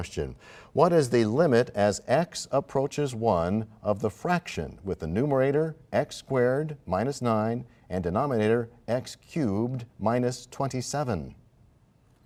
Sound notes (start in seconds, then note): none